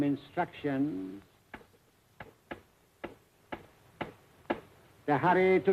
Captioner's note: tapping table